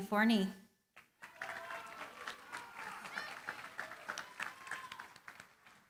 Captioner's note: cheering, applause